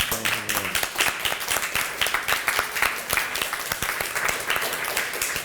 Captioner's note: applause